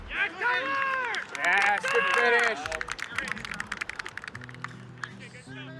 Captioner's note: applause